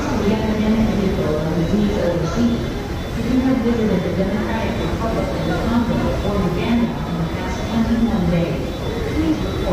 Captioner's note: fast-paced footsteps and rushing crowds